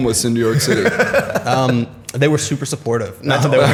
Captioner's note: laughter